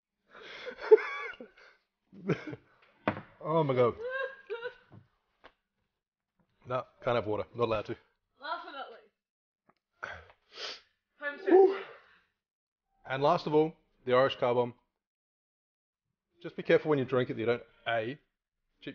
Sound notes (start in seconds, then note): 3.9 woman laughing; 10.0 sniffles